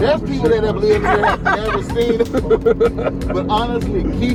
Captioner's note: laughs